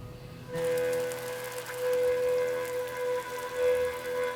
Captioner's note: dripping water